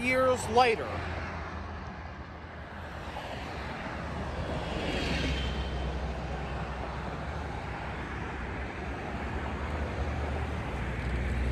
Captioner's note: Cars passing through State Boulevard